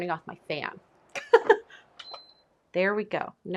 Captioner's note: chuckles